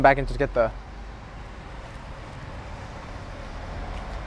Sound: air whirring

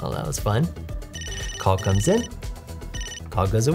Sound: phone rings

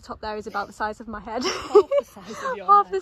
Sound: laughs

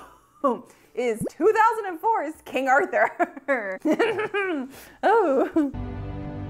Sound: chuckles; dramatic music

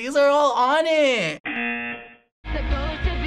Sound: buzzer

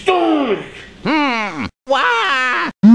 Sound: grunt

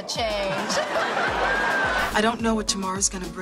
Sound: audience laughs

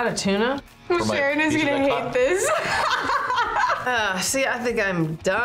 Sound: laughs

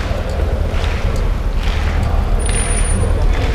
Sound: cheering and shouting

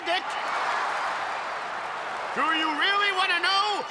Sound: all cheer

